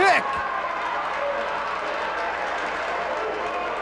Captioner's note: spectators cheering and applauding